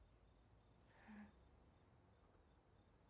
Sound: exhales shakily

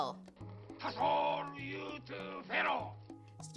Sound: natives speaking in tribal language

